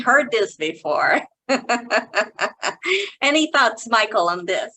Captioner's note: chuckling